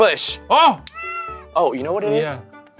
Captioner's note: cat meows